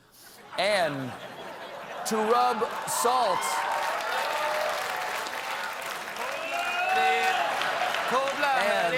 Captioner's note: applause